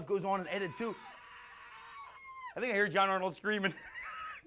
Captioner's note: screams; laughs